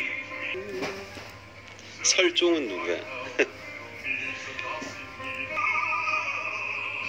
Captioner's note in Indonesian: tertawa